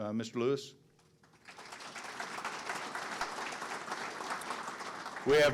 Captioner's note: audience clapping